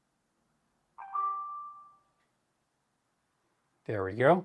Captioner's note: phone chimes